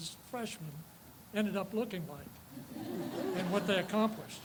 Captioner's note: audience laughs